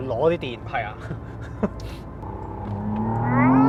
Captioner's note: laughs